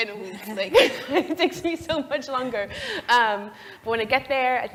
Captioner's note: laugh